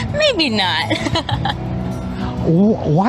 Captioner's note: laughs